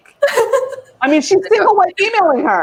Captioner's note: laughs